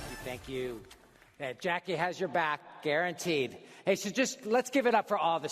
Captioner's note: applause